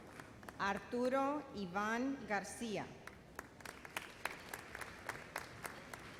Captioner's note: audience applauds